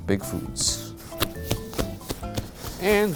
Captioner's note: patting dough